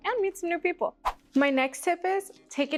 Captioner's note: whoosh